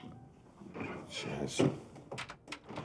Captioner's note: door creaks open